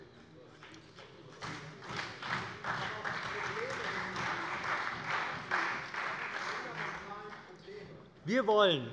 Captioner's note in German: Beifall bei der CDU und dem BÜNDNIS 90/DIE GRÜNEN